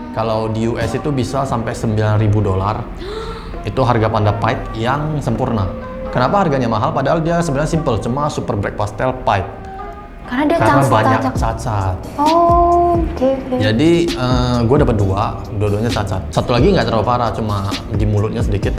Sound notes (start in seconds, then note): 3.0 gasp